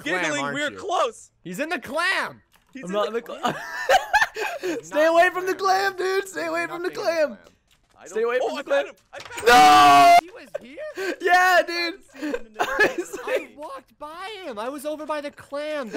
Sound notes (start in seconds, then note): 3.4 cracking up; 9.2 shouts; 13.7 cracking up